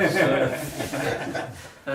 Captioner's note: laughter